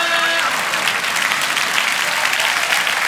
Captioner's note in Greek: χειροκρότημα